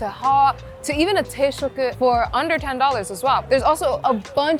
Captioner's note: speaking Japanese